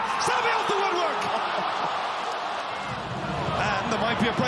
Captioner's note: crowd cheers